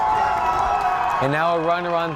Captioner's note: crowd cheers and applauds